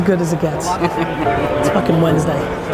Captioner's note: laughing